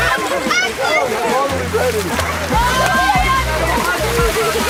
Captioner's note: water splashing